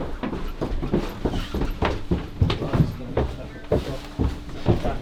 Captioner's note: footsteps on wooden stairs